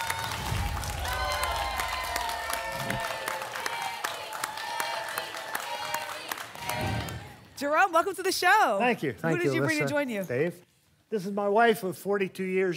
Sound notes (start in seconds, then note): 0.0 applause and cheering; 2.8 whoosh; 3.8 applause and cheering; 5.2 audience chanting "jerry!"; 6.7 whoosh